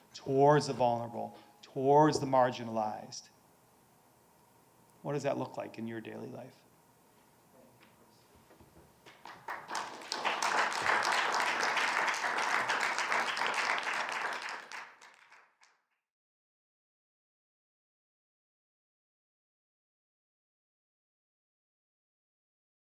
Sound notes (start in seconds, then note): 9.2 participants applauding